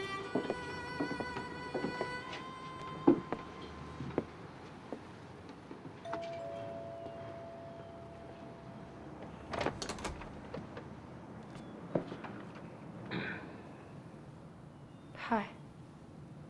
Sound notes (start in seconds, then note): 6.0 doorbell rings; 13.2 clears throat